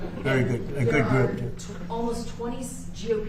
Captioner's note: laughter